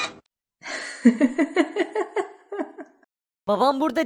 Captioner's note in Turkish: Gülme sesi